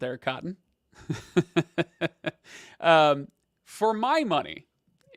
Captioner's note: laughs